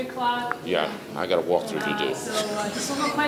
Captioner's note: laughs